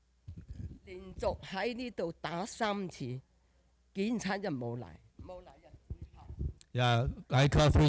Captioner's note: speaking Chinese dialect